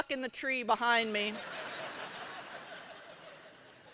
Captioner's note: laughter